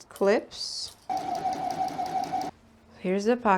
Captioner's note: sewing machine noises